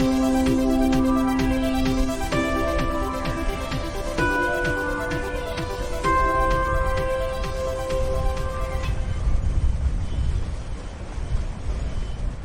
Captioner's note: sound of the wind